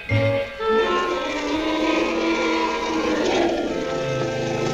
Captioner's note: both roaring